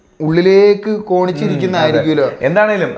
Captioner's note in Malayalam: തൊണ്ട ശരിയാക്കുന്നു